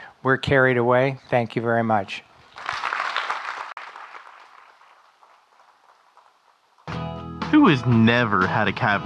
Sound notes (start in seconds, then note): 2.5 audience clapping